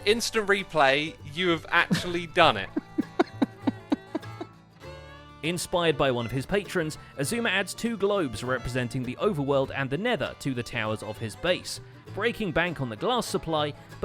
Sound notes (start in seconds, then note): 2.5 laughs